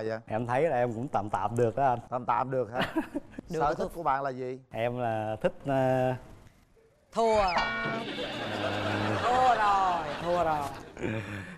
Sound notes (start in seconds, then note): 7.9 laughing